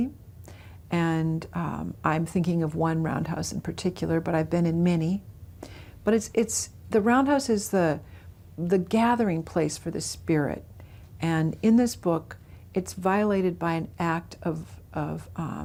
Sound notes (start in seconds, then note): none